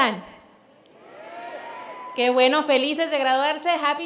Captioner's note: cheers